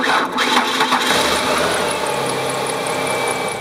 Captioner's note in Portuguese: motor a rodar; motor a arrancar